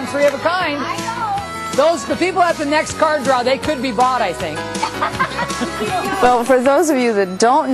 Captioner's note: laughter